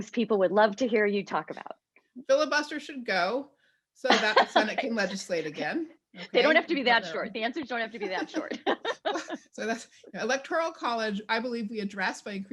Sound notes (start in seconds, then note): 8.0 laughs